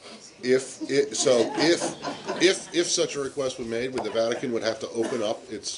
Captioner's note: laughter